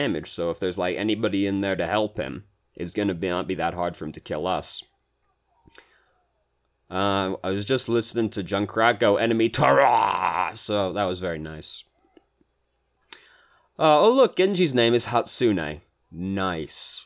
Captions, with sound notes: so if there's like anybody in there to help him, it's gonna be not that hard for him to kill us. I was just listening to Junkrat go, "Enemy turrahhh," [death gurgle] so that was very nice. Oh look, Genji's name is Hatsune. Nice.